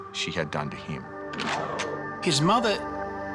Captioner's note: gun cocks